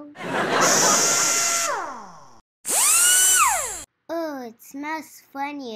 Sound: audience laughs; drill buzzes

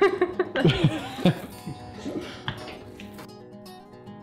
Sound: both laughing

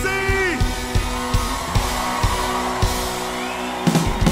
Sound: cheers and applause

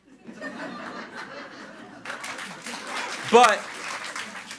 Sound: audience laughs and applauds

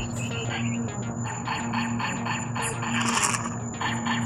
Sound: laser shots; laser shots continue

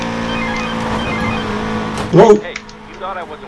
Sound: phone rings

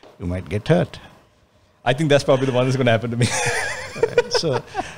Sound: laughs

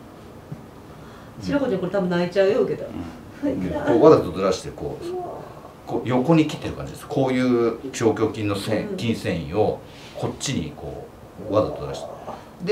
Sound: laugh

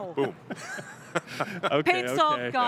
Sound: all laugh

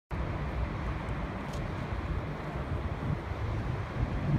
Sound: steps

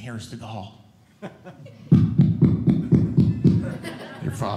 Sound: knocking

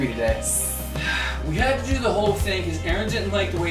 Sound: sighs

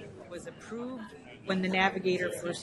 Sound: voiceover

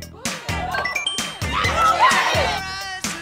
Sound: leveling up dinging; cheering

